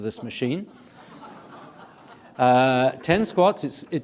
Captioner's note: audience laughing